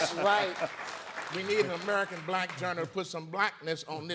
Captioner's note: audience applauding